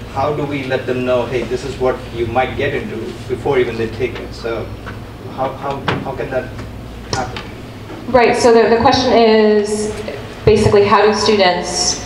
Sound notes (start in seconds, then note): none